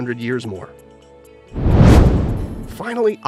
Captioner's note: meteor swishes